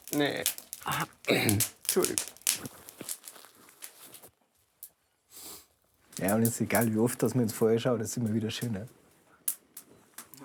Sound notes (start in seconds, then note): 0.8 clearing throat; 4.8 sniffling